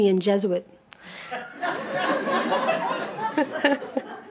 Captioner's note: audience laughing